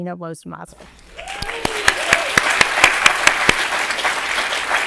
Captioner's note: people clapping